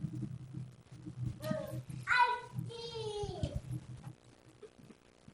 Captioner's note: child brabbles